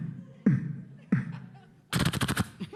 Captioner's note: imitates gunfire; imitates rapid gunfire